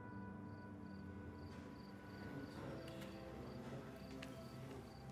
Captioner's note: crickets chirping